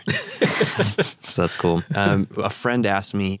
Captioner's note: laughs